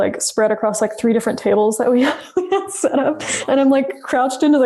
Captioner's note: laughs